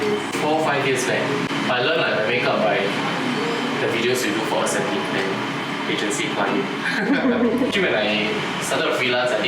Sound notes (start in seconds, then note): 6.8 laughter